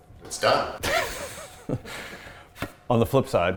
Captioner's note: both laughing